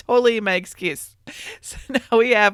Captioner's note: laughs